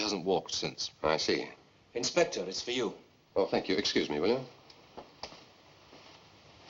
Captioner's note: none